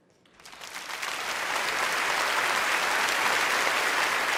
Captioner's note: audience applauding